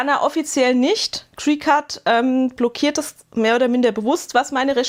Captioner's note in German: none